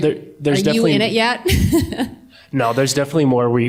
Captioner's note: laughter